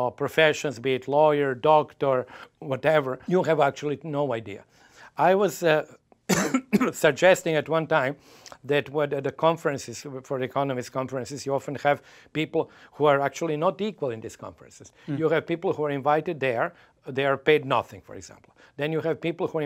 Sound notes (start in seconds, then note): 6.2 coughs